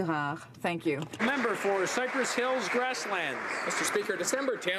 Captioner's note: speaking French